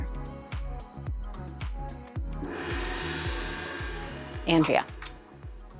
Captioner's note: gong ringing